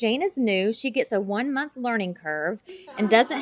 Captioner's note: laughter